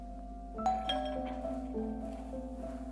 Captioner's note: door bell ringing; gentle bright music